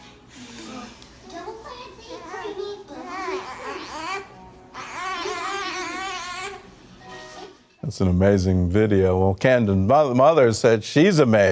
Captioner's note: baby noises